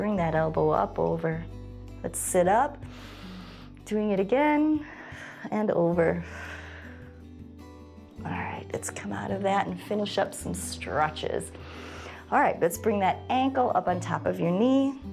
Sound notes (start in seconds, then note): 2.8 exhales; 2.8 inhales; 6.2 exhales